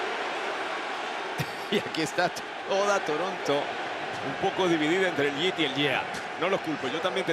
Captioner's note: laugh